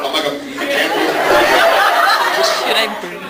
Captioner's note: laughs